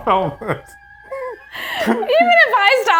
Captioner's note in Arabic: كلاهما يضحك